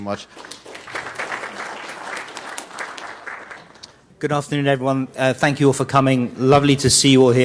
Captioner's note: applause